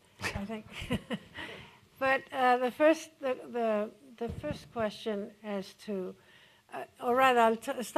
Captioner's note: chuckles